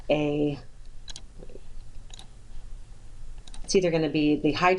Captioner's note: clicking